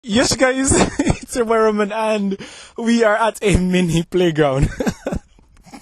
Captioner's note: laughing